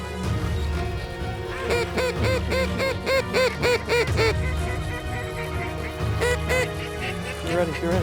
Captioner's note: duck calls